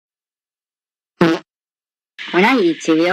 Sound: fart

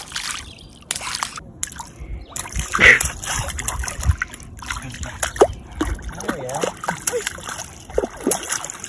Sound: water splashing

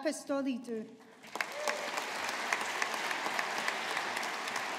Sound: audience applauding

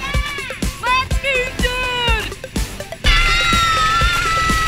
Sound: shouting

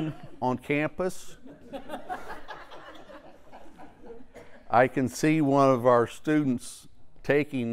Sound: laugh

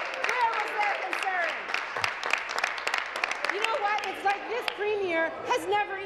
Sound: applause

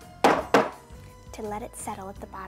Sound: pan tapping

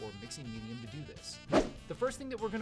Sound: swoosh

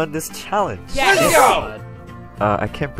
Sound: cheering

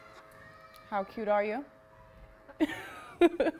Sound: laughter

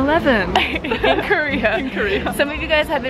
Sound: laughs

